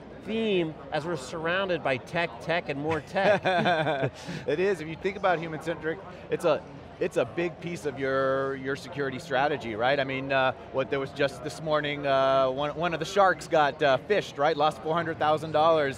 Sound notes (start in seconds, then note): 2.9 laughs